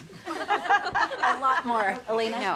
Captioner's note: women laughing